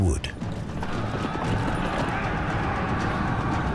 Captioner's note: soldiers shouting